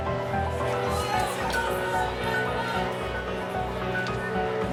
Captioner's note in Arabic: تشجيع الجماهير